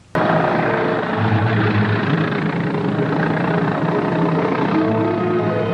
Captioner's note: vehicle puttering; suspenseful music